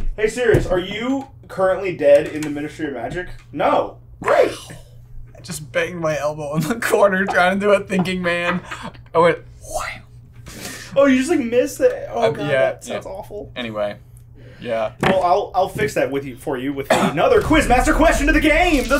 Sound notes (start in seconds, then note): 8.3 laughing